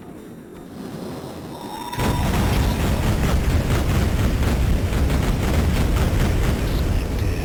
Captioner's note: explosions